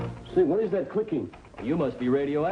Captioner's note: faint clicking